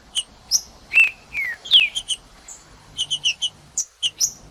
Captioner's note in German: trinca ferro cantando